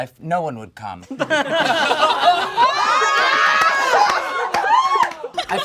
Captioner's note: all laugh and shout